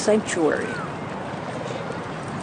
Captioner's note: voiceover